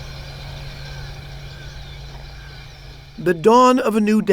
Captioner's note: birds chirping